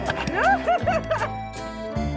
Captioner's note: laughing; polka music